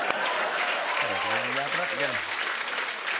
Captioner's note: cheers and applause